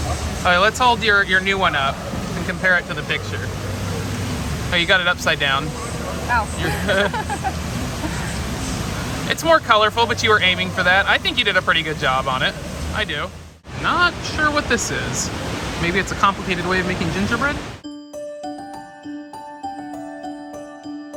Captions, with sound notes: Okay, let's hold your new one up and compare it to the picture. You've got it upside down. Oh. (Laughs) It's more colorful, but you were aiming for that. I think you did a pretty good job on it. I do. Not sure what this is. Maybe it's a complicated way of making gingerbread?